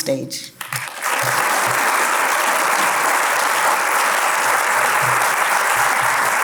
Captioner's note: applause